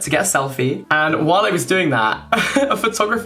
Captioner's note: chuckling